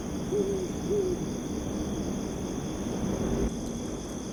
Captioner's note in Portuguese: Sons ambiente de grilos e vento; Sons de coruja